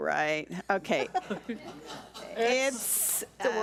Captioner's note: several attendees laugh